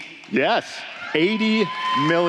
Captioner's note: applause